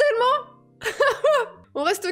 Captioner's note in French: rire